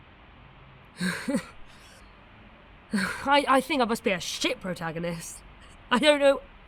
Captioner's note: laughs